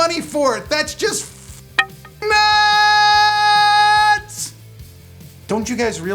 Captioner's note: click